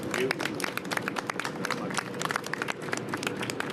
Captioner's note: applause